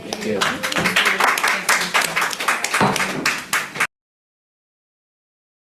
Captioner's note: committee applauds